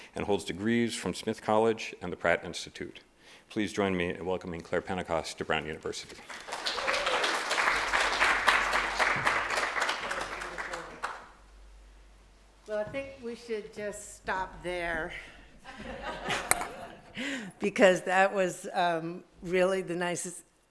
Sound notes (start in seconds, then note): 6.1 applause